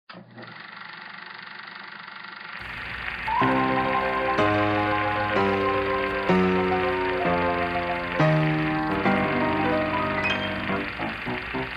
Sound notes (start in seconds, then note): 0.0 projector spooling film; 6.7 ominous piano music